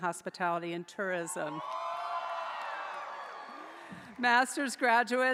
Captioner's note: audience cheering